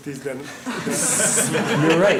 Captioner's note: laughter